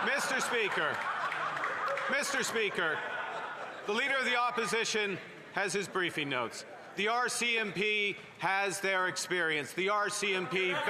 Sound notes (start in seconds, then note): 2.9 laughter